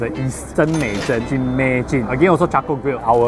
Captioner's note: in chinese & english